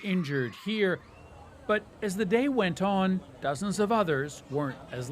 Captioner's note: screaming